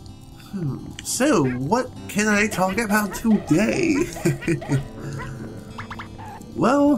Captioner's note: chuckles